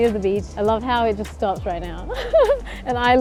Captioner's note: giggles